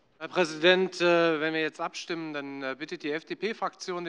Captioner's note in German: none